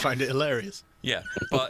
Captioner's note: laughs